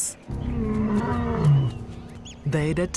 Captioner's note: roars